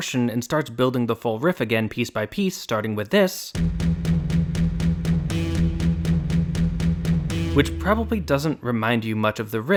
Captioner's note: bang